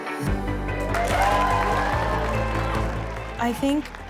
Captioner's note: cheering